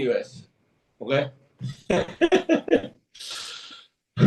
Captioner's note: laughs